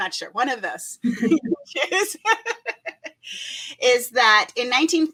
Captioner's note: laughs